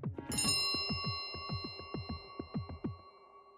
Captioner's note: suspenseful music; bell chimes